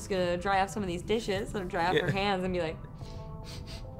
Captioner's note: sniffs